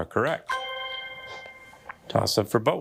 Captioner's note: bell dinging